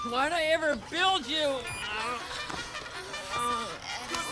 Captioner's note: alarm clock plays bugle charge